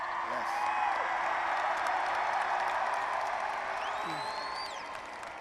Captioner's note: attendees cheering